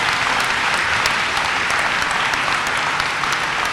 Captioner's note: applause